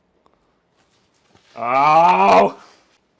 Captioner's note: dismayed cry